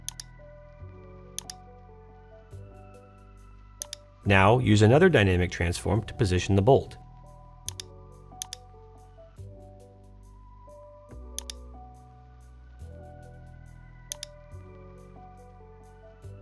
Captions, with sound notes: (mouse clicking) Now, use another dynamic transform to position the bolt. (mouse clicking)